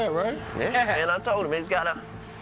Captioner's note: laughs